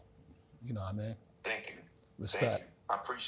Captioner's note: on phone; on phone